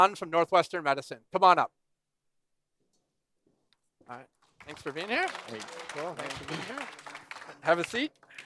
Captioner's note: applause